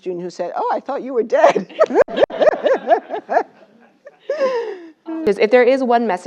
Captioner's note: laugh